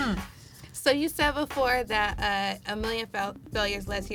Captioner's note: laughs